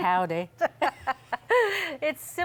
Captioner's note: laughs